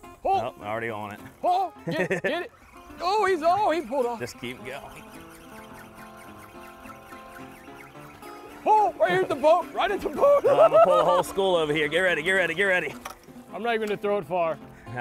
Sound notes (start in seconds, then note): 5.0 fishing pole reeling; 10.1 laughs